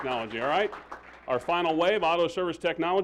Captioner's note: applause